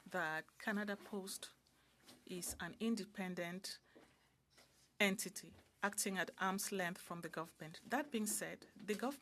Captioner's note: speaking French